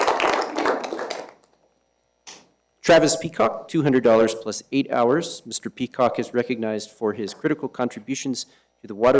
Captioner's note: applause